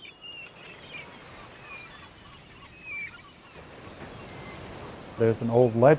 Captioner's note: seabirds squawking